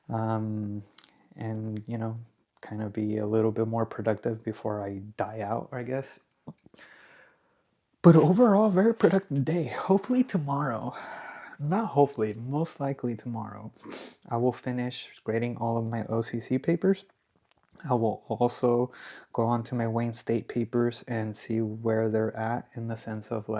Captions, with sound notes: Um, and you know, kind of be a little bit more productive before I die out, I guess. But overall, very productive day. Hopefully tomorrow, not hopefully, most likely tomorrow, I [snorts] will finish grading all of my OC papers. I will also go on to my Wayne State papers and see where they're at in the sense of